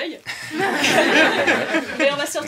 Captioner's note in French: rires